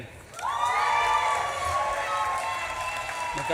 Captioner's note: audience claps and cheers